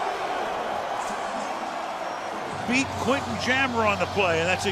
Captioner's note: cheering; pa announcement